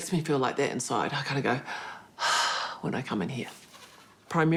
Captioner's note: exhales deeply